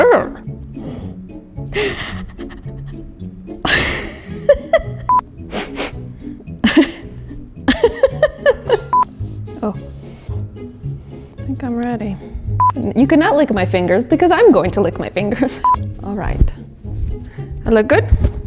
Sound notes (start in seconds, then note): 1.6 gasping; 1.7 laughs; 5.4 sniffing; 5.6 laughs